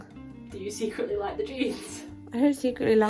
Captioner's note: laughs